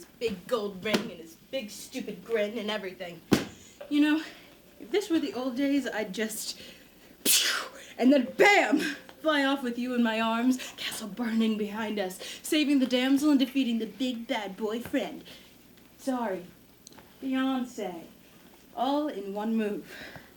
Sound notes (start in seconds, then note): 5.2 MADDOX takes aim at an imaginary Jason with a ‘pchoo’ noise